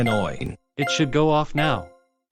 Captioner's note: beeping; beeping